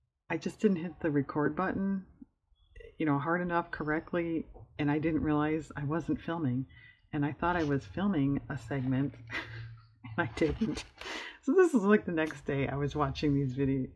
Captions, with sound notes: i just didn't hit the "record" button hard enough, correctly and i didn't realize i wasn't filming and i thought i was filming a segment (laughs) and i didn't so this is like the next day i was watching this video,